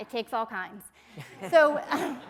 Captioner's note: laughter